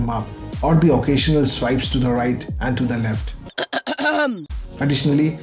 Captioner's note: clear throat